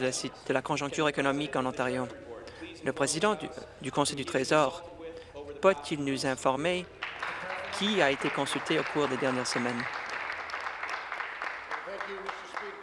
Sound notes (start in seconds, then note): 9.6 applause